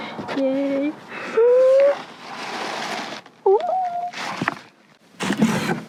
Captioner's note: gasping